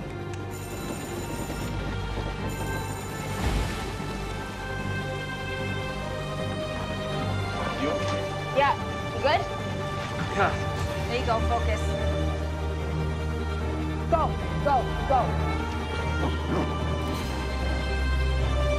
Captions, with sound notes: (bell ringing) (eerie music) - Good? - Yeah, you good? There you go, focus. - Let's go, let's go, let's go. (eerie music)